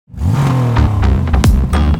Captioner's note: car revs